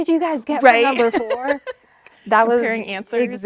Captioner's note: laughing